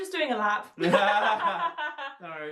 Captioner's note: laughing